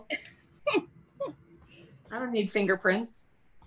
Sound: laughs

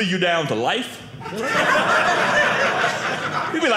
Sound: audience laughing

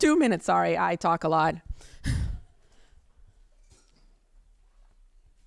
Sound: chuckles

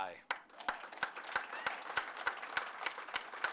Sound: applause

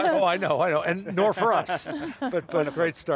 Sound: laugh; laughs

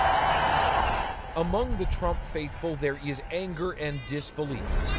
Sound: cheers and Applause

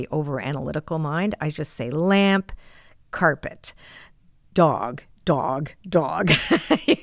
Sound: laughs

